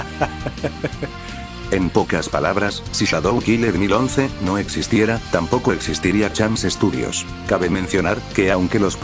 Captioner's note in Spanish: risas